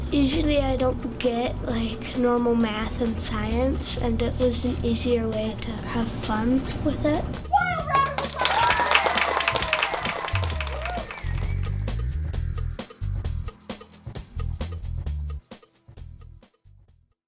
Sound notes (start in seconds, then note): 9.3 children cheering; 12.5 upbeat music